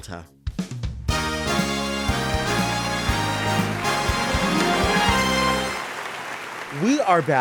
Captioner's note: exciting music; canned applause